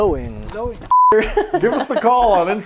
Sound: laughing

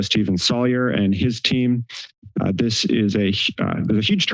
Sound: none

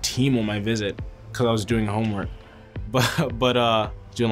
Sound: laughs

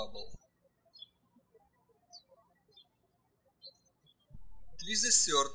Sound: birds chirping

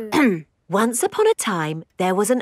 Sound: clears throat

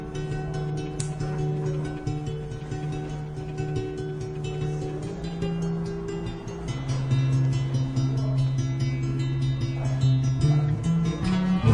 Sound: slap

